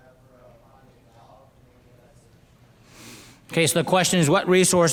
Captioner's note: speaking faintly